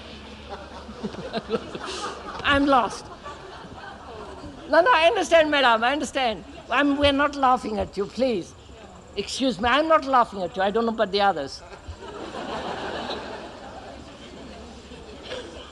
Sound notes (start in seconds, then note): 0.3 laughs; 0.4 laughter; 11.8 laughter